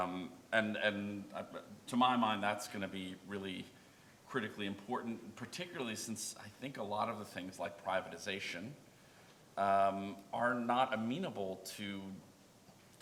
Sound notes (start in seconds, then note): none